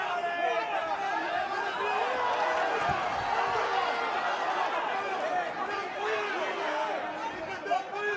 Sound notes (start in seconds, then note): 3.8 cheers